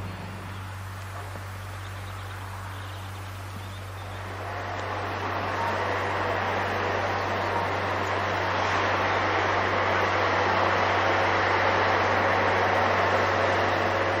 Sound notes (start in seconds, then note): 1.3 work and ambient noise